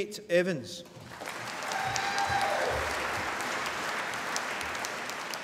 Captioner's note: applause